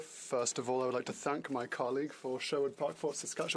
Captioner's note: speaking french